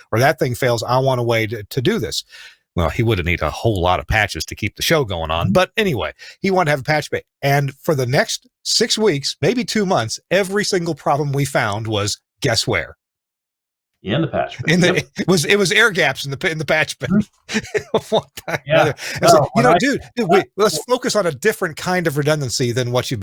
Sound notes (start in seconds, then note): 17.4 laughter